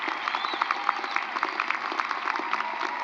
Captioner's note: cheering and applause